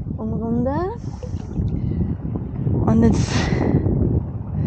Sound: wind

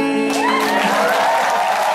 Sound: cheering

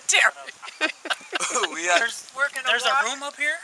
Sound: laughing

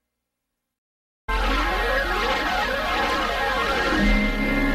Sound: swirling sounds continuing

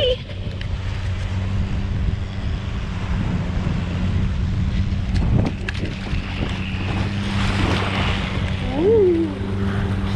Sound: sound of sea

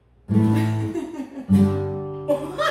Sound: laughter

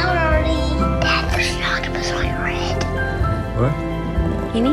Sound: whispering

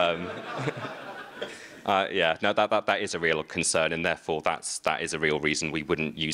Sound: laughter

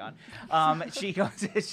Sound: laughs

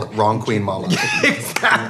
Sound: laughing

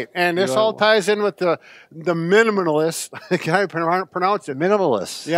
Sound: laughs

